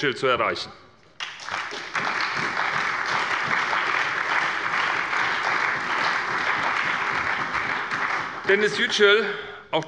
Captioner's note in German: Beifall bei der CDU, der SPD und dem BÜNDNIS 90/DIE GRÜNEN